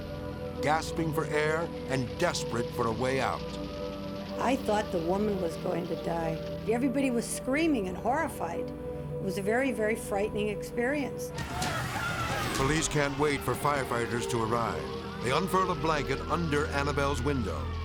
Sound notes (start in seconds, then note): 11.4 people screaming